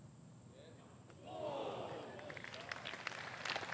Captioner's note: applause